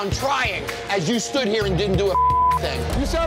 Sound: beep

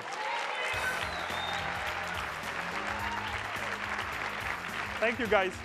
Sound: attendees applauding

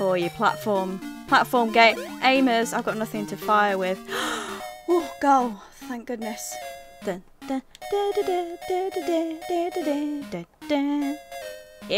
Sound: gasps

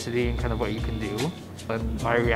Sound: computer whirring

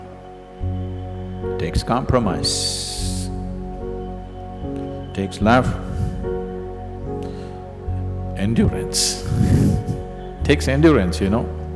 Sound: laughs

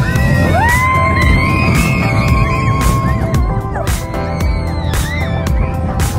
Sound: group screams with excitement

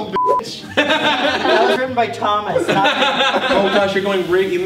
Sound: laughs

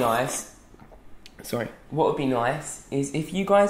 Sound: slurping

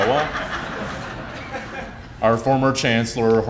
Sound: laughter

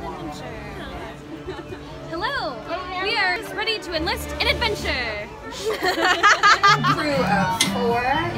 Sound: laughter

